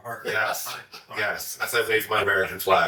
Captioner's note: laughs